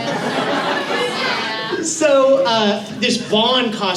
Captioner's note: laughter